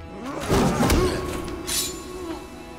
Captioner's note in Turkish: Dövüş Sesleri